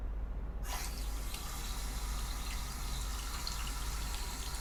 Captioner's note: water splashing